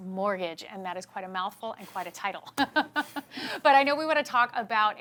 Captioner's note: laughs